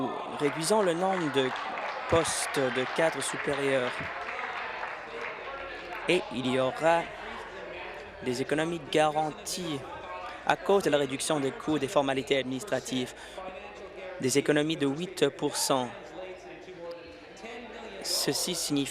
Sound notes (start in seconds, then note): 5.6 applause